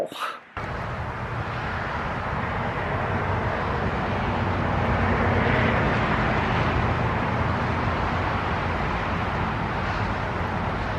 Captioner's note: traffic sounds ASMR